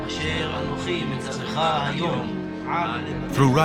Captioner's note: reading aloud